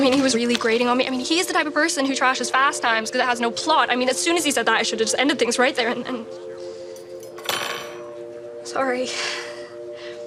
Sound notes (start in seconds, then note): 7.1 knife clangs